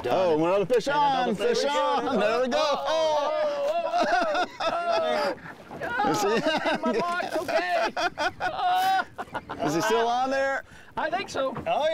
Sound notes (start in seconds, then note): 4.1 group laughing; 5.9 laughing